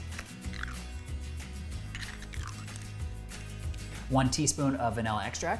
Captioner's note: egg shell cracking